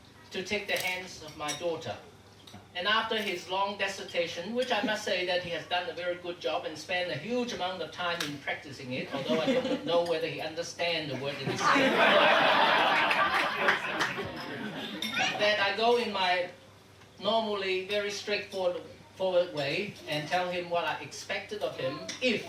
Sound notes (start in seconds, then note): 11.5 audience laughing